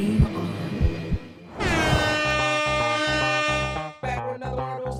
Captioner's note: air horn blowing